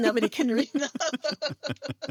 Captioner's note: both laughing